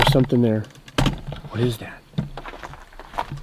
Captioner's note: gravel crunching